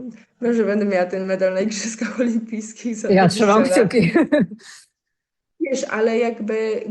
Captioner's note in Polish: śmiech